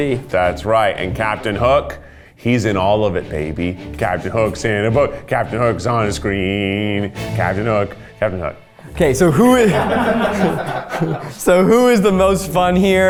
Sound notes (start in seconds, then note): 10.2 crew laughs